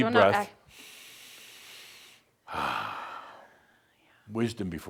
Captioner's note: they both take a deep breath in